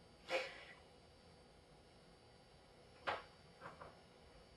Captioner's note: whimpering